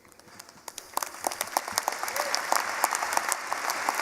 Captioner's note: applause